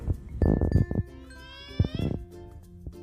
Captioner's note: baby sounds